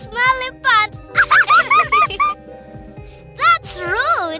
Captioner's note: laughter